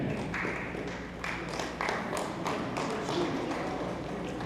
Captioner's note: hands clapping